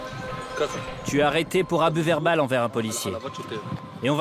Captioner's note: Hebrew spoken audio